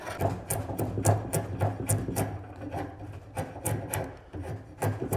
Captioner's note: knife cutting